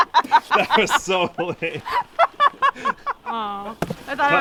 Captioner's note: laughs